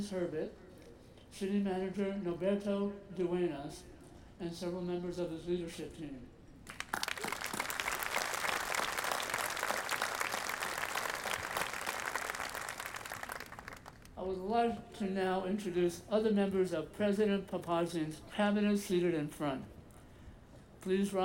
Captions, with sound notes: Frances Herbert, City Manager Norberto Duenas, and several members of his leadership team. (audience applauding) I would like to now introduce other members of President Papazian's cabinet seated in front.